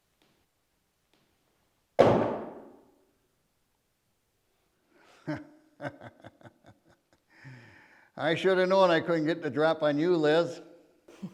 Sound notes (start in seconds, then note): 1.9 gun clunks; 5.8 Keg laughs; 11.1 chuckles